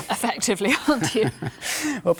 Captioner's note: both laughing